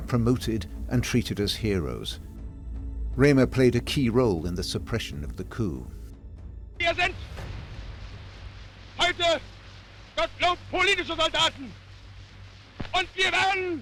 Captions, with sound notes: are promoted and treated as heroes. Remer had played a key role in the suppression of the coup. [speaking in German]